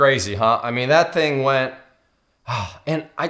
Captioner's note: sighs